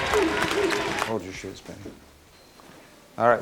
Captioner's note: murmurs of defeat